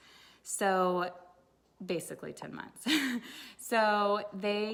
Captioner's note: chuckles